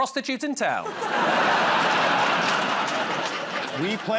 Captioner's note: laughter